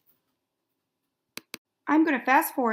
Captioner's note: mouse clicks